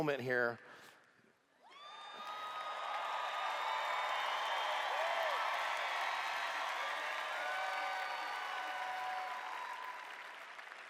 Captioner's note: cheers